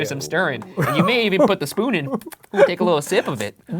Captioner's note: lips pattering